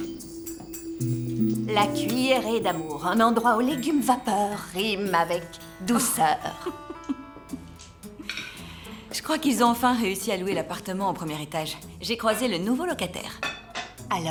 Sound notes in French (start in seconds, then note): 6.5 rires